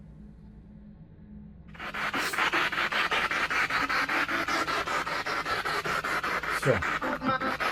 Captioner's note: radio noise from the spirit box